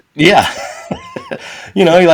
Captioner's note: laughing